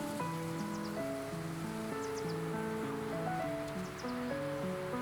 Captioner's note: grasses blow in wind